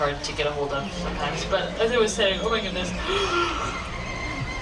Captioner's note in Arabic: يتثاءب